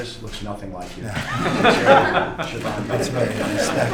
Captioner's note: laughter